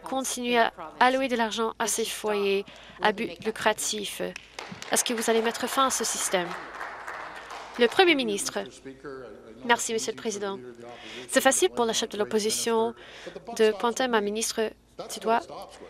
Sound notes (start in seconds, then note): 7.3 some Applause